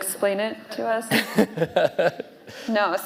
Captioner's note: laughing